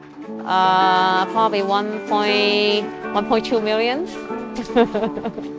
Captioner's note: laughs